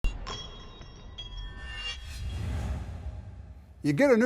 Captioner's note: whooshing sound